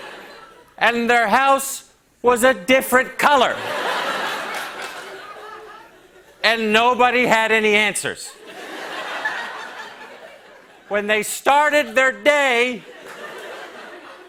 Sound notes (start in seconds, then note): 3.5 laughter